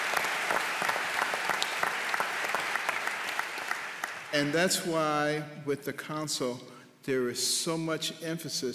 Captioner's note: applause